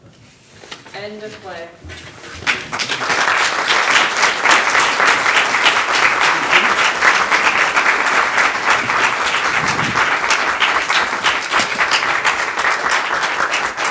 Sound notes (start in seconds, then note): 2.7 audience applauding